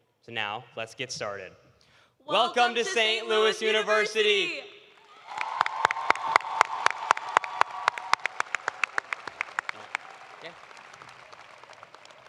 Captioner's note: cheers and applause